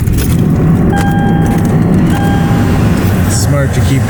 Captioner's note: car engine revving; car beeping